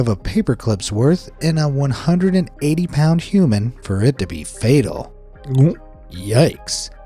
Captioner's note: gulps